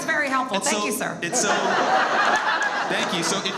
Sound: audience laughs

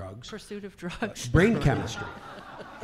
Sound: laughing

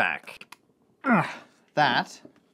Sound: grunts

